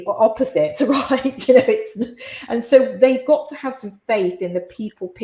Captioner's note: laughs